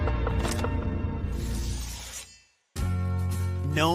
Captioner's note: knife slicing; gentle music